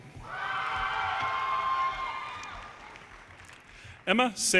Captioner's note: audience cheers and applause